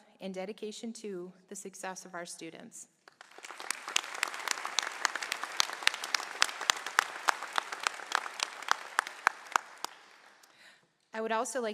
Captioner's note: applause